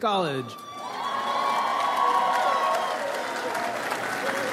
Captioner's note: audience applauds